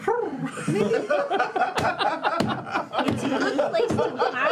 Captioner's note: laughter